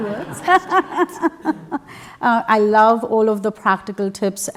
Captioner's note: laugh